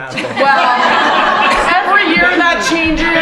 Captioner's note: laughing